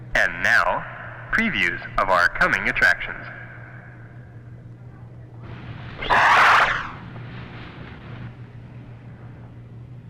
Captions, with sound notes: And now, previews of our coming attractions. (door whooshes)